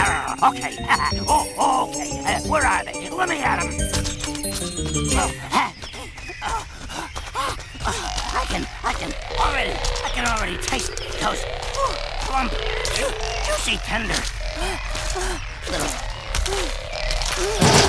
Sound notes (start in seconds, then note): 0.3 growling; 5.1 panting